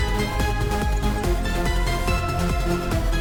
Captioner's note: distorted necklace jingle